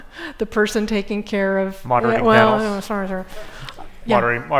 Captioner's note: mumbling